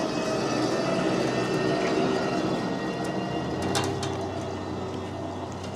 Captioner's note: machinery humming continues